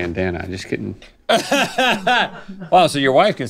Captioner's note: Rhett laughs